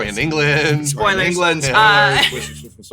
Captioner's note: laughs